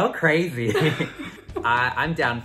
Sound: laughs

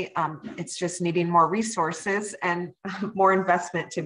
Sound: chuckles

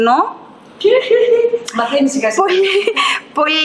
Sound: laughs

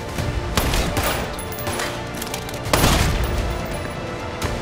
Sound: gunshots

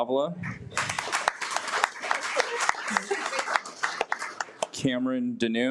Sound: audience applauds

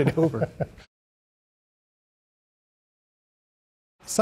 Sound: chuckling

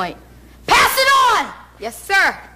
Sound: yelling

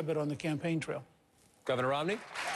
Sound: applause

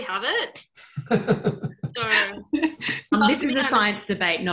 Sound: laughing

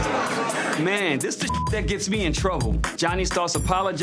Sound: beeps

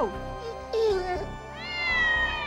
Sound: dog whimpering; meowing and growling

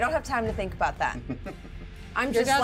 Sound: speaker chuckles

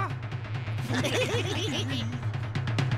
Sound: evil chuckles

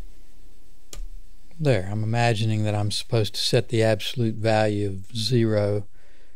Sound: clicks

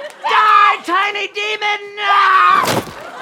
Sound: screaming

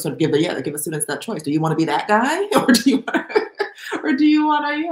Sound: laughs

